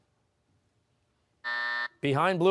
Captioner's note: buzzer